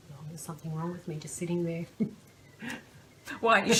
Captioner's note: laughs